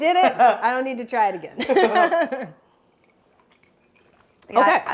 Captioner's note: laughs